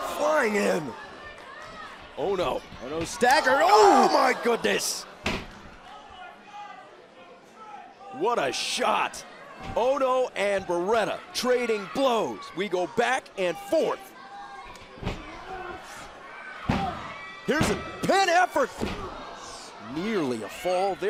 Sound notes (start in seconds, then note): 10.6 crowd chatter; 17.0 crowd cheering